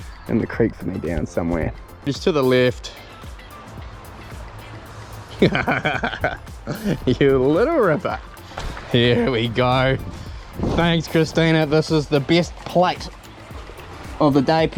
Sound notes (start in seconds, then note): 5.4 laughs